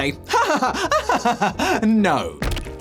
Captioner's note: laughs